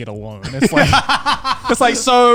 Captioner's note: laughs